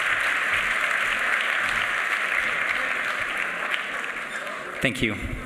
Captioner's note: applause